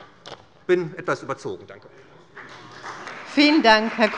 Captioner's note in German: Beifall bei der SPD